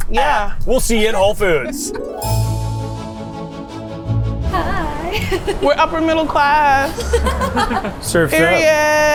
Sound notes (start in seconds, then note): 3.3 bright music; 5.0 laughing